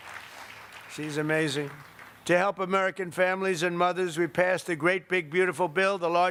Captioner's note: applause